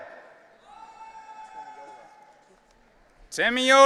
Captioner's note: audience cheering